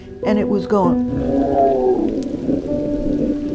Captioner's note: growling